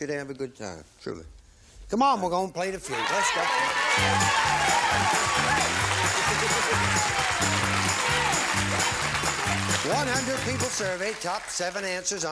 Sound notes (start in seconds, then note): 6.0 applause